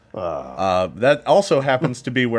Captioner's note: groaning